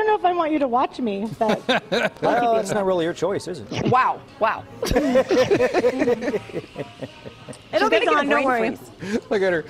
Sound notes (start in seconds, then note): 1.4 laughter